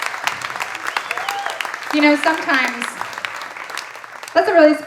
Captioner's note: audience applauding and cheering